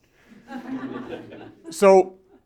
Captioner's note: laughter